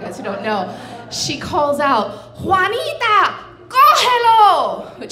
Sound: speaking Spanish

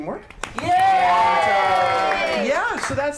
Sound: cheer

